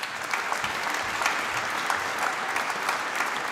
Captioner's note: applause